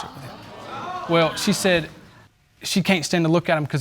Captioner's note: audience exclaiming